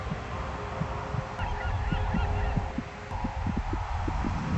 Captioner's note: birds calling